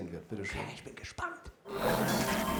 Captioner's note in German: flüsternd